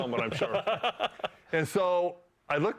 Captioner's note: laughs